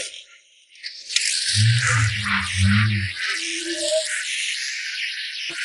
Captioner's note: car engine rumbling